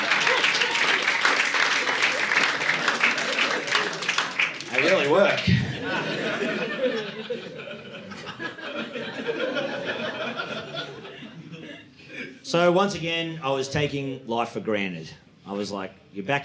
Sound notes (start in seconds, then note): 5.7 audience laughing